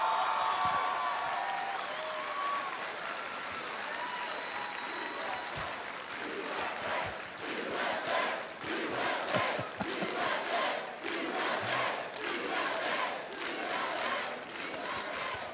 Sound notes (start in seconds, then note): 3.3 cheers and applause